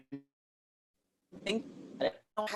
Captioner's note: audio skips